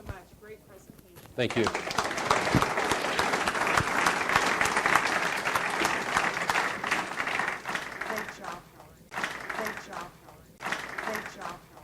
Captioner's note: audience applauds